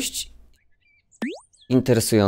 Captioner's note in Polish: boing